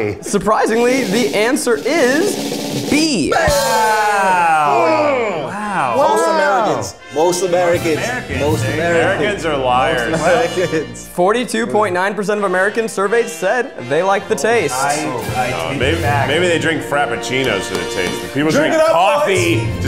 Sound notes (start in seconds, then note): 0.6 drum roll; 3.3 all cheer and exclaim